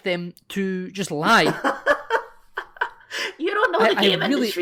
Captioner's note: laughter